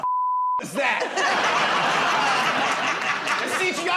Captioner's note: laughter